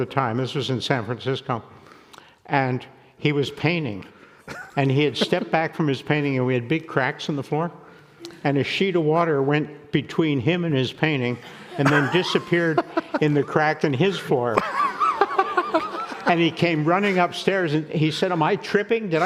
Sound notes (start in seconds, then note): 14.4 laughing